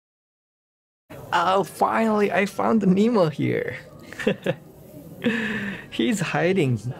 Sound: chuckles

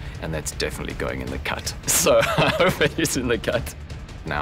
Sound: laughs

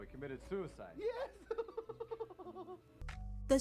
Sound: maniacal laughter

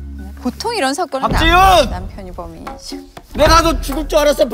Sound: shouts

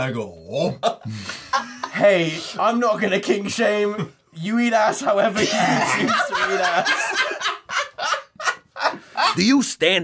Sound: laughter

